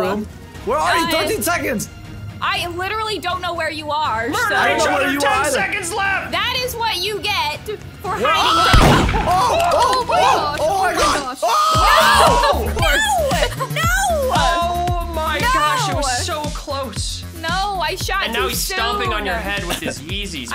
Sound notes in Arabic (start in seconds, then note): 8.7 إطلاق نار; 13.3 موسيقى مبهجة